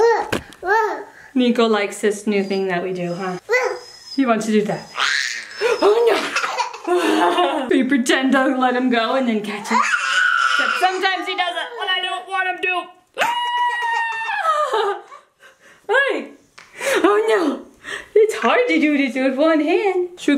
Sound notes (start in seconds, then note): 5.0 baby laughing; 10.4 baby laughing; 13.1 joyous yelling